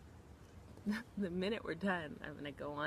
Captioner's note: laughs